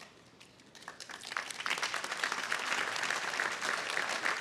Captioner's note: audience applauding